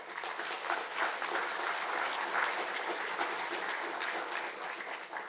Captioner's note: audience applauding